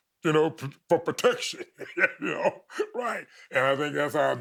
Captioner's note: chuckling